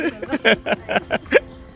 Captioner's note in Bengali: হাসি